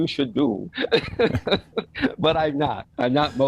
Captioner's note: both laugh